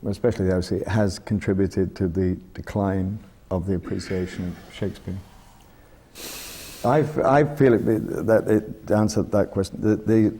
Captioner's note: sighs